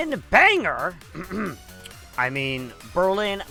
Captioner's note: cough